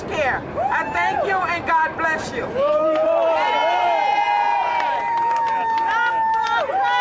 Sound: crowd cheers

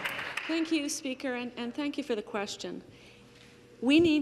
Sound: some Applause

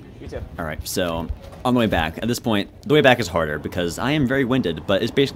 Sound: voiceover

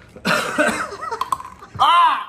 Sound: crack

